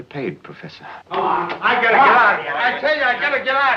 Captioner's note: arguing